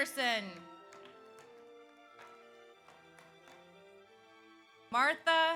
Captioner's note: audience applauds